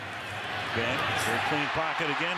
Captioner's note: cheers, applause